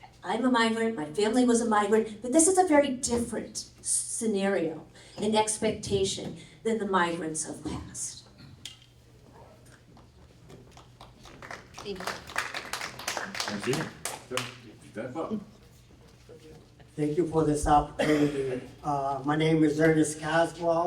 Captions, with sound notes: I'm a migrant. My family was a migrant. But this is a very different scenario and expectation than the migrants have passed. Thank you. [APPLAUSE] Thank you for this opportunity. My name is Ernest Caswell.